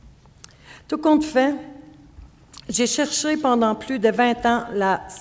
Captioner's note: speaking French